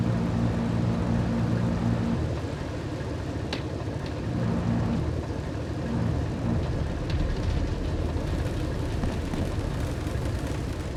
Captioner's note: car engine roaring